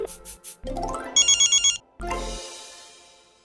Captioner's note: phone ringing